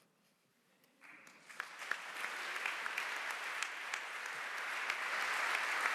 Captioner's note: applause